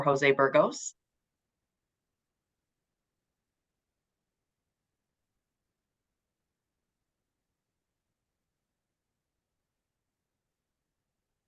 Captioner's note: silence